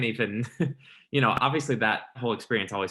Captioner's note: interviewer laughing